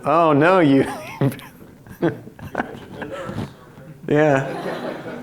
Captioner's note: audience talking indistinctly; laughs; audience laughs